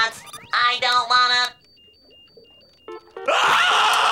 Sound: slurping; screaming

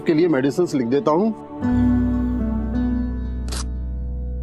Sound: paper tearing

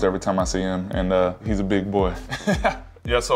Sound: laughs

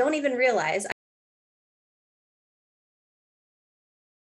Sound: audio cuts out

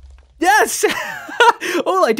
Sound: laughs

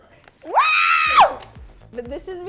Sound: screaming

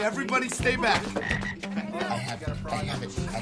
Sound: frog croaking

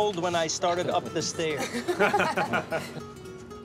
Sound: laughter

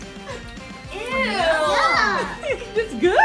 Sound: laughs

